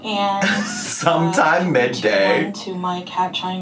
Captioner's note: laughs